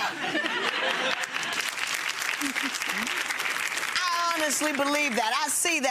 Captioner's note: people laughing and clapping